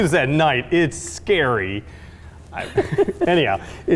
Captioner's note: laughing